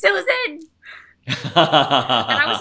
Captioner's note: laughs